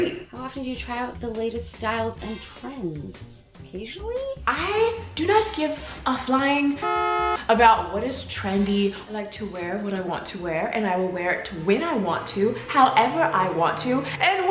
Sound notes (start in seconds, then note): 6.7 beep